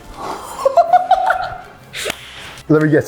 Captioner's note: laughs